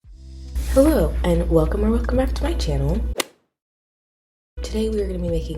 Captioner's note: golf hit sound effect